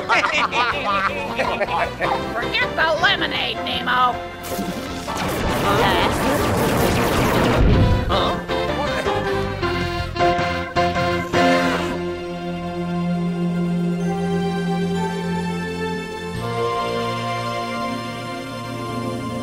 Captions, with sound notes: (all laughing) - Forget the lemonade Nemo. (zap) (upbeat music) (whimsical music)